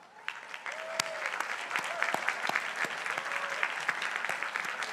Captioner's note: crowd applauding